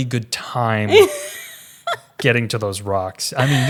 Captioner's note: laughs